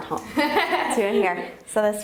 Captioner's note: laughing